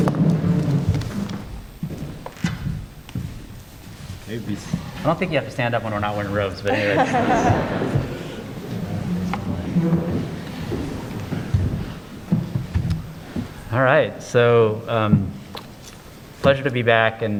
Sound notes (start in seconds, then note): 6.6 laughter